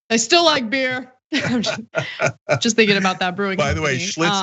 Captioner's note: laugh